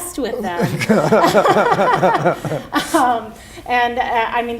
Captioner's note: laughter